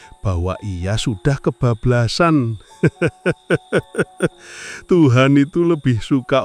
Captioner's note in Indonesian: tertawa